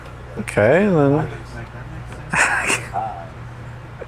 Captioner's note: laughs